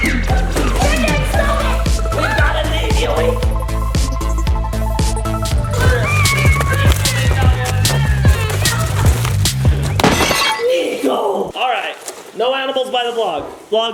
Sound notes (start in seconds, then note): 10.1 crashing sound